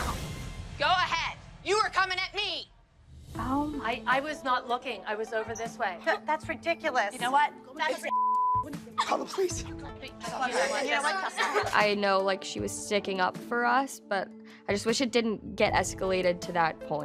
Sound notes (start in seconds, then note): 8.8 girl crying